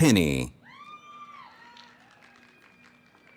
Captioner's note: cheering